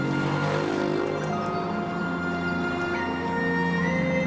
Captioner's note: engine racing; gentle music